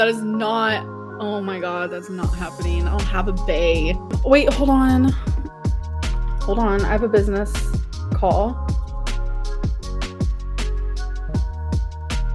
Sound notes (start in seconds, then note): none